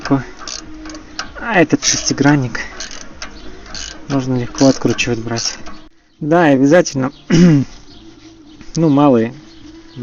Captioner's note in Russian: откашливается